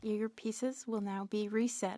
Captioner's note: speaking French